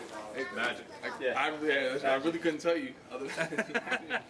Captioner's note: laughter